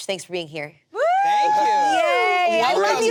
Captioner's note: group cheers